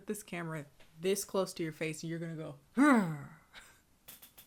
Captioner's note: grunts